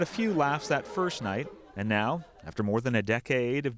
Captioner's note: laughter